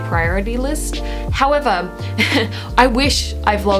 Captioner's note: laughs